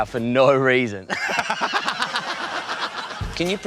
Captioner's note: laughs